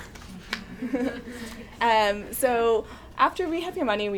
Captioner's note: chuckles